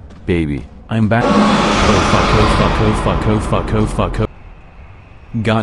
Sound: sounds of fear

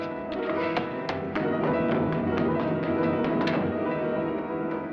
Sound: ominous music; running footsteps; ominous music

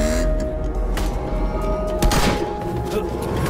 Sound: gunshot

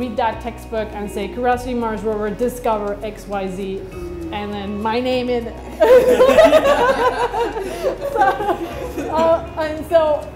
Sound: laughs

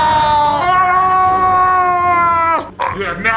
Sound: screaming; struggling

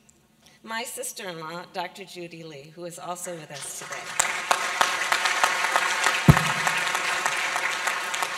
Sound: applause

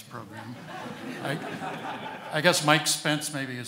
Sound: audience laughing

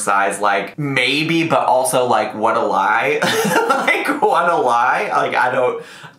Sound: laughs

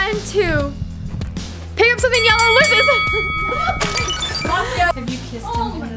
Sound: bell dings

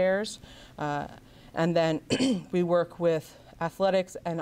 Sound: clears throat

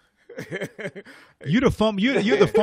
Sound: laughs

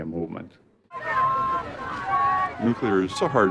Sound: crowd shouts

